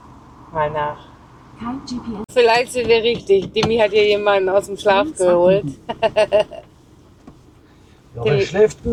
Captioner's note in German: gelächter